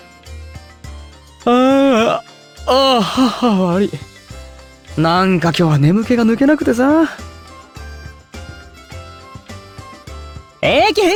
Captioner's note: yawn